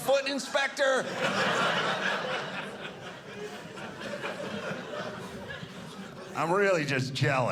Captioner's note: audience laughing